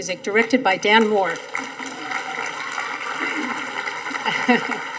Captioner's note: audience applauding